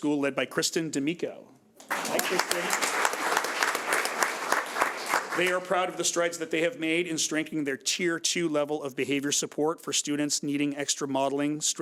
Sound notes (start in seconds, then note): 1.8 audience applauds